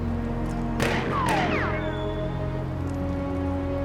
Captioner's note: gun firing